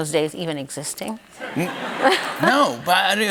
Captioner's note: laughter